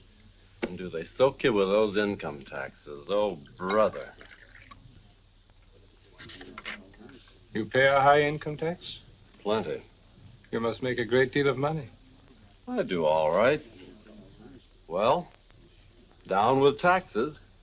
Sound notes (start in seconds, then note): 3.8 bourbon sloshing; 6.0 page rustles